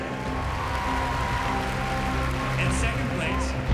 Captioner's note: cheering and applause